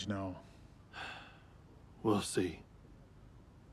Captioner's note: sighs